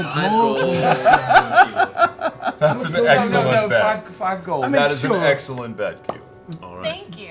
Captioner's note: laughs